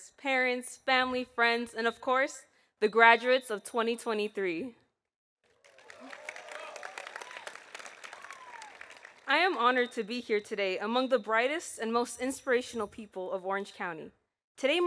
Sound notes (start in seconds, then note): 5.4 audience applauding